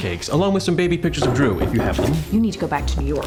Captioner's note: knocking on door